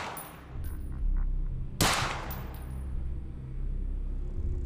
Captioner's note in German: schuss